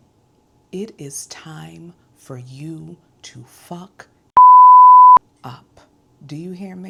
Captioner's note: beep